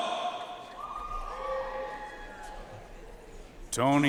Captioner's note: audience cheering and applauding